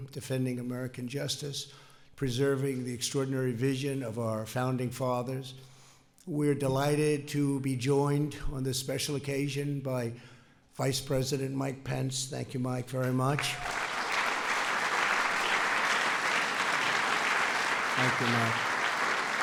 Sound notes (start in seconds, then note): 13.2 applause